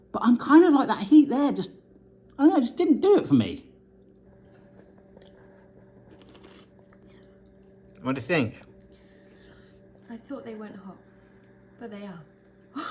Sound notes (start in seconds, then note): 6.0 munching; 12.2 laughs